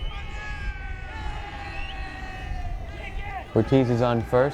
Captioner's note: players cheering